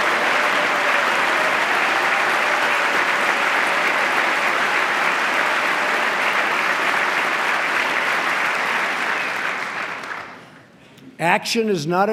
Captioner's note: applause